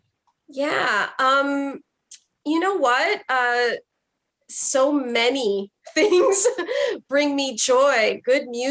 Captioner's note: chuckles